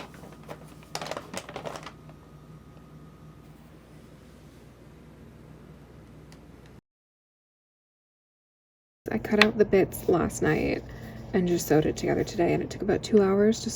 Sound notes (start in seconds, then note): 2.6 Pippin crinkling a paper bag